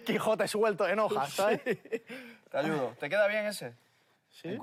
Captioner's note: laughs